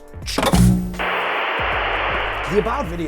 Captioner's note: air whooshing